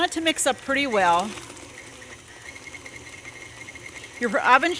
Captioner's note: mixer whirring